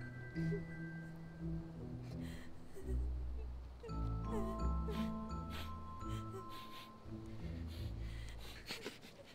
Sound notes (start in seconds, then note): 7.3 sniffs